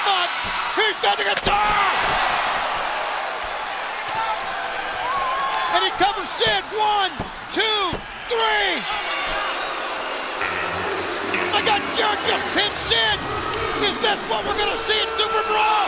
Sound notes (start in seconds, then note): 2.3 crowd cheering; 8.4 bell ringing; 9.6 crowd cheering